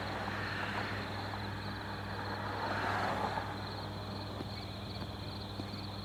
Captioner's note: crickets Chirping